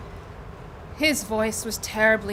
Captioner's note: none